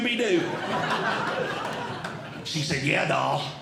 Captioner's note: audience Laughing